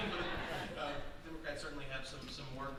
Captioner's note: audience laughing